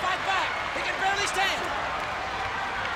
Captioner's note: audience cheers